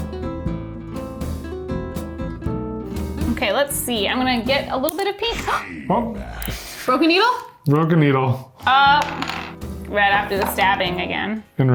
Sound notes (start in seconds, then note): 0.0 smooth music; 5.3 gasps